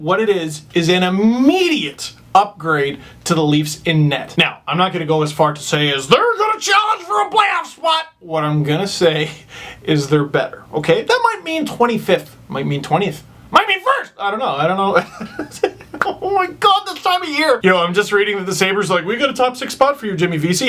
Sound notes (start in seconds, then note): 15.0 pure joy laughter